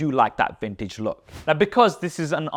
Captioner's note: air whooshes